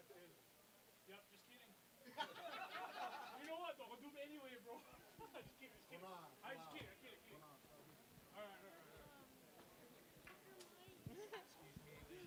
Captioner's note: chattering